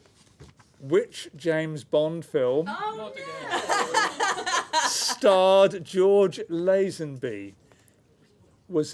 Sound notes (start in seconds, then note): 3.4 laughter